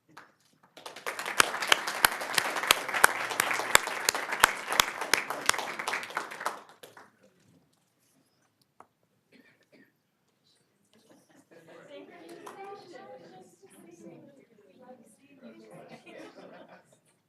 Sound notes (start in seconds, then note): 13.2 applause